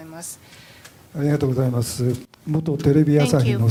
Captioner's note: speaking japanese